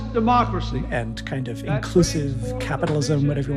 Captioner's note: soundbite of archived recording